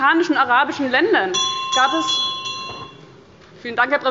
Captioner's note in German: Unruhe – Glockenzeichen des Präsidenten